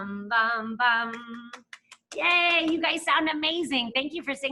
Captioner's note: claps